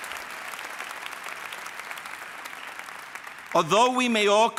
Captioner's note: applause